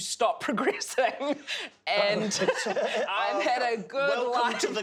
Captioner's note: laughs